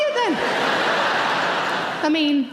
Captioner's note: audience laughs